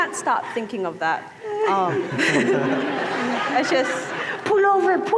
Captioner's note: laughter